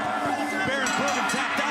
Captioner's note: bell ringing